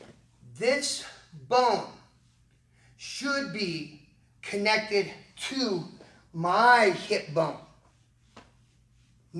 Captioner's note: pat